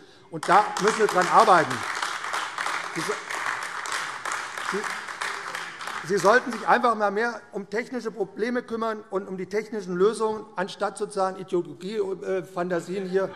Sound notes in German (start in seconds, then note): 0.4 Beifall AfD